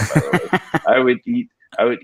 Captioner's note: laughs